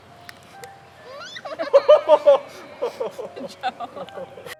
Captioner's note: crying and laughing